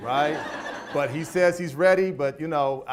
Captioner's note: audience laughs